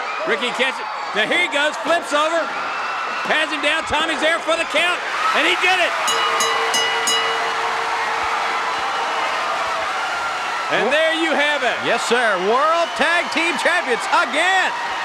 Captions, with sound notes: Ricky catch it. Now here he goes, flips over. Hands him down. Tommy's there for the count and he did it. (bell ringing) (audience cheering) And there you have it. Yes sir, World Tag Team champions again.